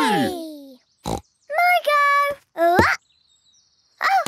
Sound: snorts

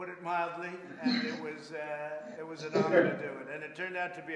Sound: laughter

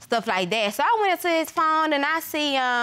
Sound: none

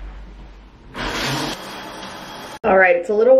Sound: shower rushes

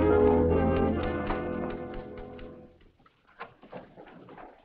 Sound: typewriter clacking

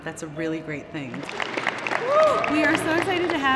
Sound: applause

